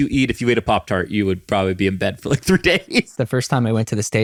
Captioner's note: chuckles